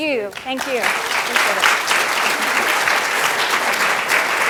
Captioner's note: applause